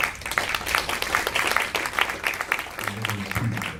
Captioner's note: applauding